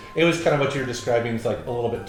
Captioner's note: none